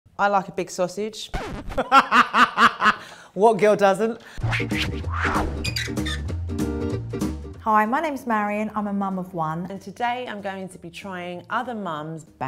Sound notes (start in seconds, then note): 1.8 laughs loudly; 4.4 playful music